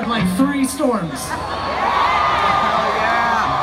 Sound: crowd cheering

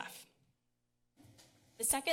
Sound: pause

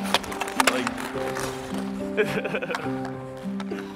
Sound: laughing

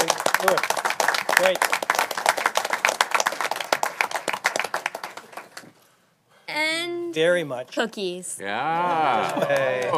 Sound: applause

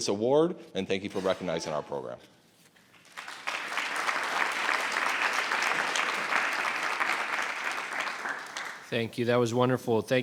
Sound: applause

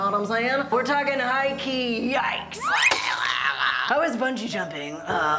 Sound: slide whistle; sad music

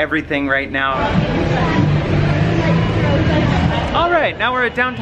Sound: people chatting loudly

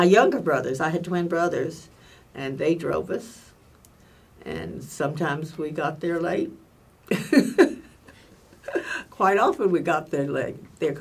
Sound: laughs

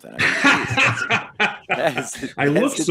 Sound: laughs

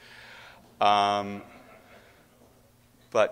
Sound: audience laughing

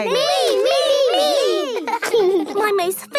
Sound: laughing

